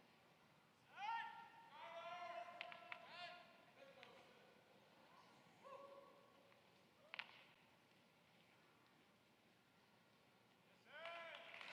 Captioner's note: applause